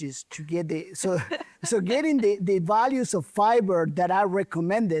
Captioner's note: laughing